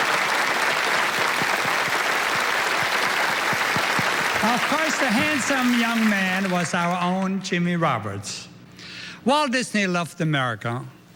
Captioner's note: applause